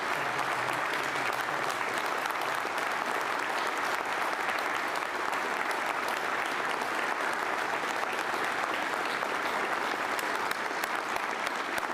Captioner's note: applause